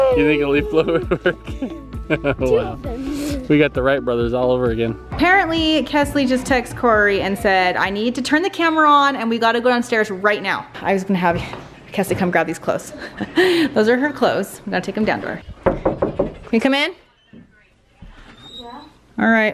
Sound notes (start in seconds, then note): 1.9 laughing; 12.9 laughs; 15.4 knocking